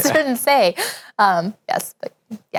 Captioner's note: laughs